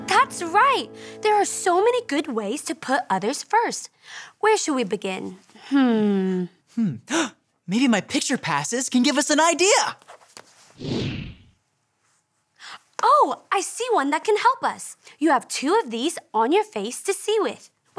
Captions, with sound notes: - That's right, there are so many good ways to put others first. Where should we begin? Hmm... - Hmm... (gasps) Maybe my picture passes can give us an idea. (air whooshing) - Oh, I see one that can help us. You have two of these on your face to see with.